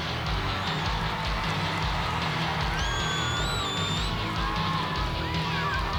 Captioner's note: audience cheering and clapping